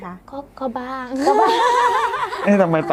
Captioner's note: laugh